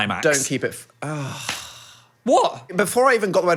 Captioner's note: groans